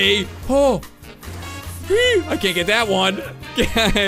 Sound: squeals

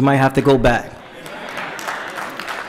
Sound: applause

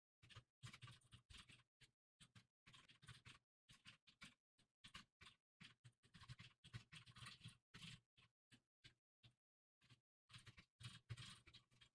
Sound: typing sounds

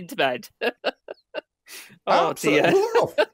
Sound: laughs

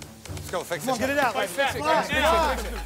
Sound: shouting

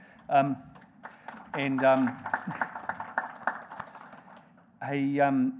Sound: audience applauding

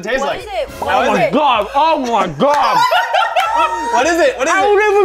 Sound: laughter

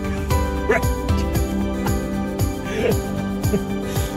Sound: father laughs

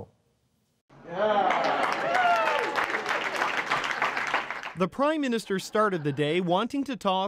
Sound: applause

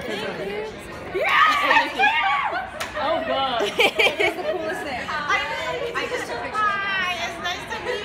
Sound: scream of joy; laughter

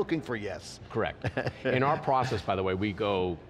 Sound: laughs

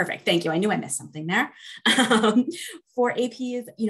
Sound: laughs

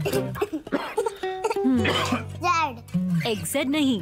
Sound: coughs

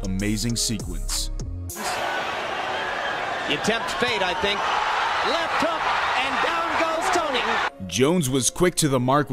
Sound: crowd cheering

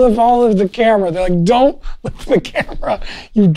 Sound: laughs

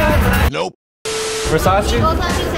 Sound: static

